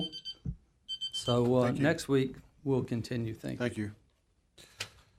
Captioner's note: beeper